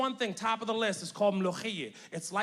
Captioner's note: speaks in Arabic